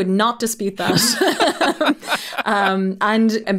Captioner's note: pair laughing